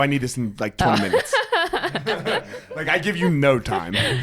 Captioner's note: both laughing